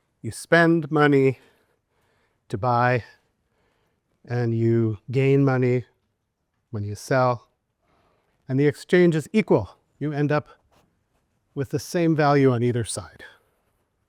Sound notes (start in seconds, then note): none